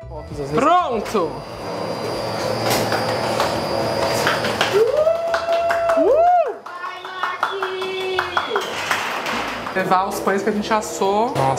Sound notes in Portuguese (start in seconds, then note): 5.2 palmas e comemorações; 8.7 palmas